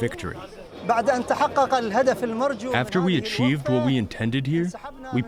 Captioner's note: through translator